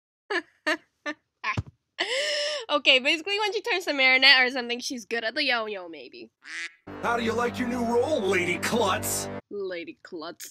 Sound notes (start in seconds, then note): 2.0 breath; 6.4 quack